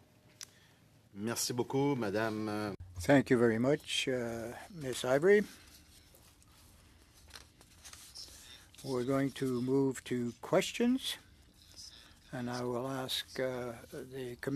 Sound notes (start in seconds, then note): 3.3 speaking French